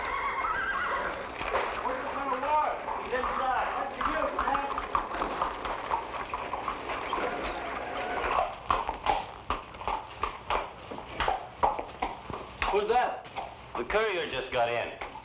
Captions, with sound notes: (horses neigh) (men chatter) (horse hooves patter) - Who's that? - The courier just got in.